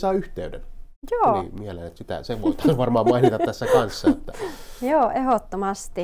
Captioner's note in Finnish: naurahtaa